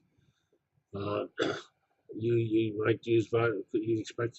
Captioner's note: cough